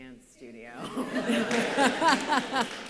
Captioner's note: laughter